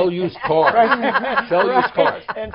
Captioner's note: laughter